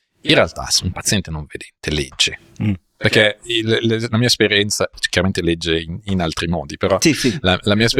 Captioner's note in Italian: schiarire la voce